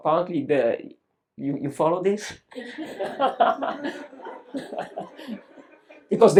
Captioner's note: laughs